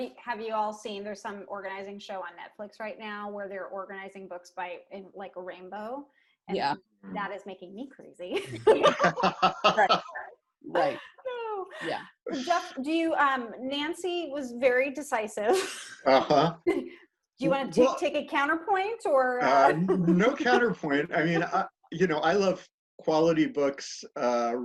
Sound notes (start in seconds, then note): 8.3 laughter